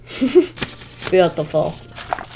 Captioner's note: chuckles